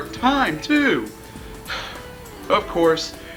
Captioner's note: sighs contently